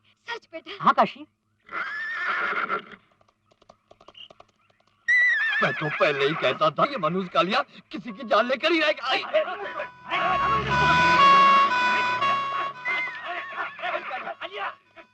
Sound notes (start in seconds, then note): 9.0 ambulance siren wails